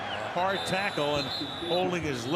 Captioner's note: whistle